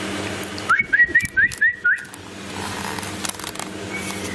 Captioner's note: whistles